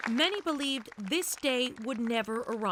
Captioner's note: applause